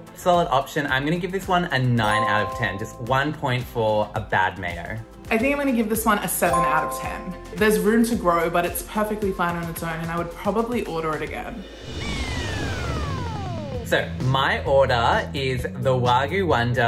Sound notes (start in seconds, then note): 11.7 electronic trilling